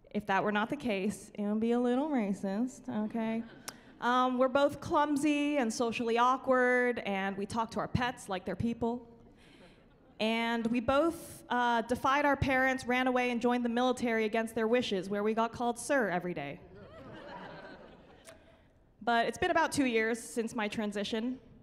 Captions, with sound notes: If that were not the case it would a little racist, okay? [chuckling] We're both clumsy and socially awkward. And we talked to our pets like they're people and we both defied our parents, ran away and joined the military against their wishes where we got called Sir every day. [chuckling] But it's been about two years since my transition